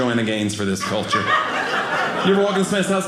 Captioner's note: audience laughing